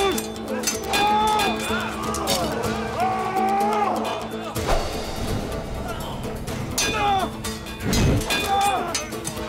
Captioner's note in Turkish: Savaş sesleri; Müzik - Hareketli